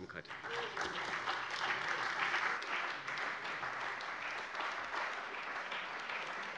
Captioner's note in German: Beifall bei der CDU und dem BÜNDNIS 90/DIE GRÜNEN